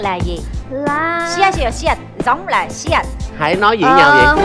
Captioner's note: korean